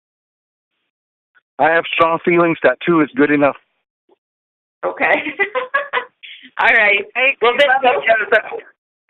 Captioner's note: chuckle